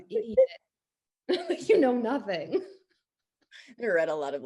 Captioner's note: laughs